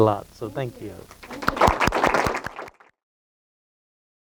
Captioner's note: applause